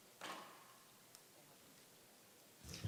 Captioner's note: none